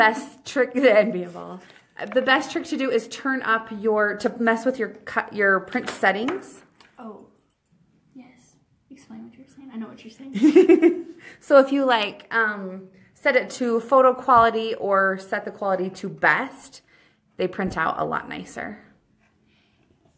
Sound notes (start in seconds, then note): 11.5 laughs